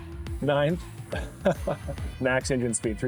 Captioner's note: laughter